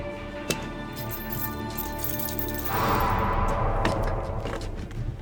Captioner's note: chains rattling